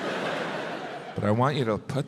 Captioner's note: crowd laughs